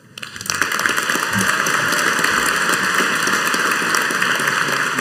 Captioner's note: audience applauding